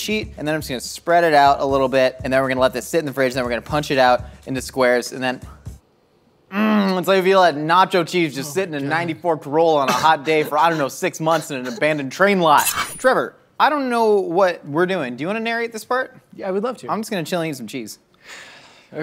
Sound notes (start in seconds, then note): 12.6 knife slices